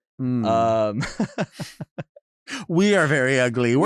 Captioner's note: chuckles